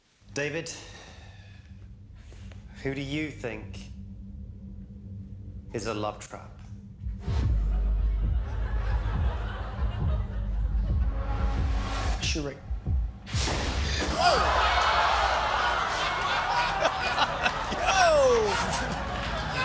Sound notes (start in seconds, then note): 14.1 laughter